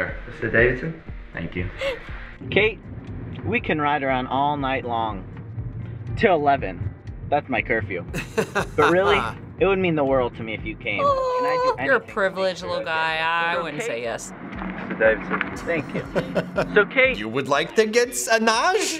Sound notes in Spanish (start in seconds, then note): 1.8 risas; 8.1 risas; 15.6 Risas